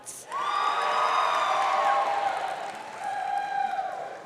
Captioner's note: audience cheering